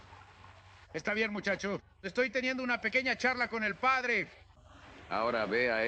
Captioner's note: yelling